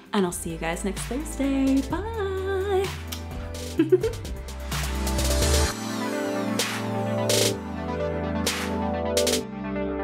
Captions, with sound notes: And I'll see you guys next Thursday. Bye. (kiss) (light electronic music)